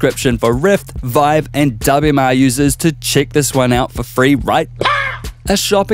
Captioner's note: pow!